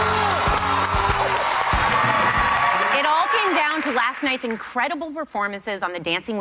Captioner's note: cheers and applause